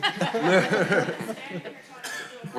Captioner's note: audience laughing